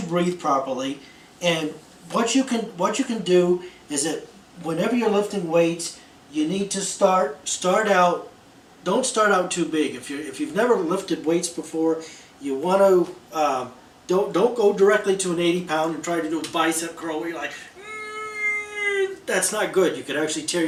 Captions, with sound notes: properly, and what you can what you can do is that, whenever you're lifting weights, you need to start start out don't start out too big. If you're if you've never lifted weights before, you want to don't don't go directly to an 80-pound and try to do bicep curl like [Straining and Groaning sound] That's not good. You could actually tear